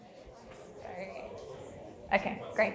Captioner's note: audience murmuring